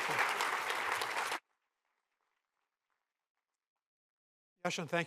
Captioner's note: applause